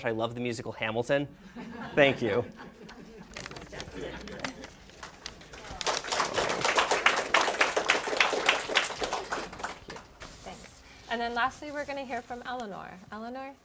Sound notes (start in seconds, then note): 1.5 laughter; 4.8 applause